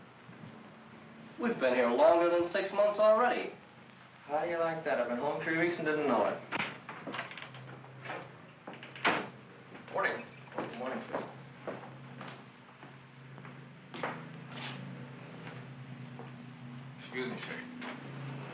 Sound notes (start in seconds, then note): 8.6 door closes